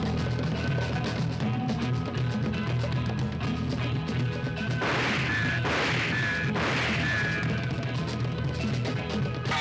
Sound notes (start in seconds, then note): 4.8 gun firing; 8.5 spring boings